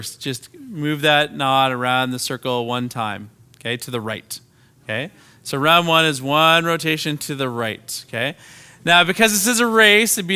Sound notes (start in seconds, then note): none